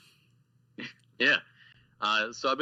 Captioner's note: laughs